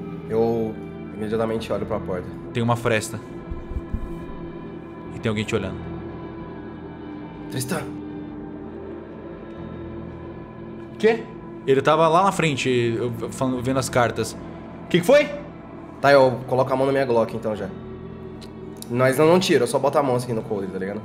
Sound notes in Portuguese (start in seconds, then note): 7.8 sussurro; 15.3 gritando